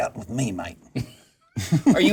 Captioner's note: laughter